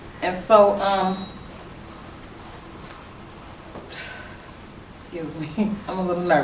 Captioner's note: laughs